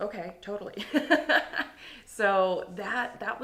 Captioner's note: laughing